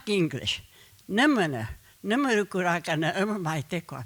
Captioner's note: speaking Comanche